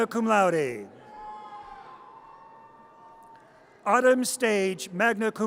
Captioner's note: audience cheers